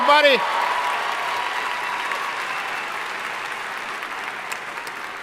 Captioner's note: audience cheering and applauding